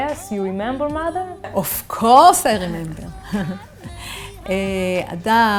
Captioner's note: chuckles